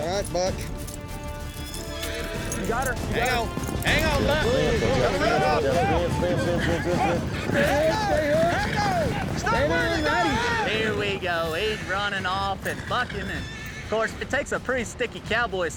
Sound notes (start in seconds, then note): 1.5 horse neighs; 4.9 bucking, cowboys shouting